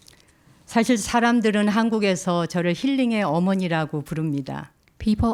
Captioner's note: speaking in Korean